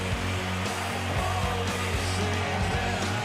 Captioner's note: audience applauding